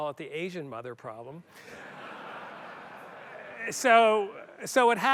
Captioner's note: laughter